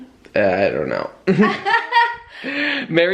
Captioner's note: both chuckling